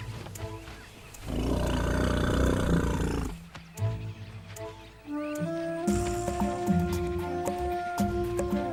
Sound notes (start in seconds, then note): 0.6 animals calling